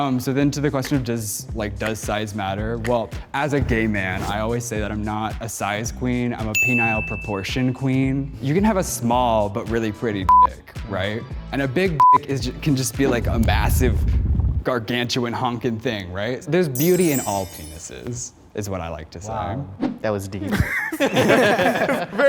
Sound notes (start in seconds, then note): 12.0 beep; 20.4 group laughs